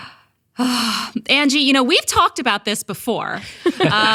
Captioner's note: sighs; laughing